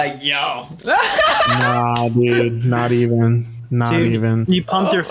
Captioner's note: laughs